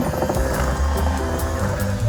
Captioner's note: machine buzzing; joyful music